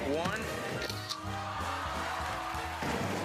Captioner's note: camera shutter clicks